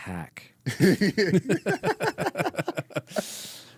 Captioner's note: laughing